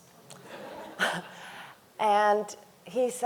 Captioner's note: audience laughing; chuckles